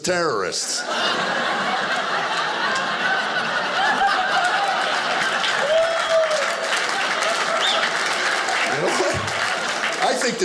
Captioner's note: audience laughing